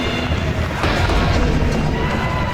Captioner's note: crowd Continues